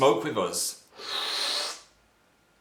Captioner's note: loud inhale